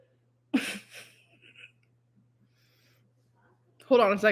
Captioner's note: laughing